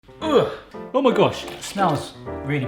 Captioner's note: light piano music; groans